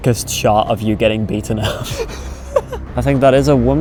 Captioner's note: laughs